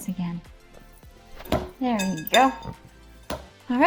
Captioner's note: clacking, dough thuds